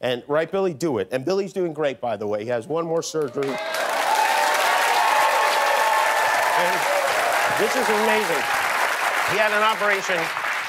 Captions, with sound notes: YEAR IF YOU DON'T HAVE INSURANCE. RIGHT, BILLY, DO IT. BILLY IS DOING GREAT, BY THE WAY. HE HAS ONE MORE SURGERY. [ CHEERS AND APPLAUSE ] AND THIS IS AMAZING.